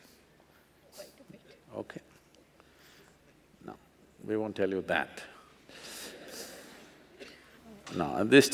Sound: laughs; laughs

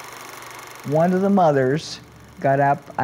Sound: diegetic sound of movie projector

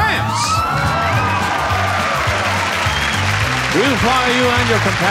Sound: audience applauds

